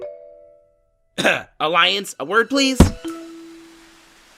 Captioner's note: cough